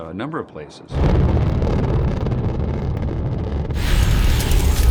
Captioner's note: rumbling